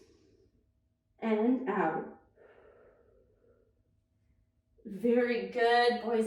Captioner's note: inhales deeply; exhales deeply